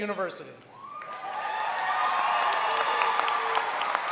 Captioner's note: applause